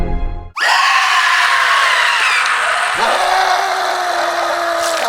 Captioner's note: screaming in torment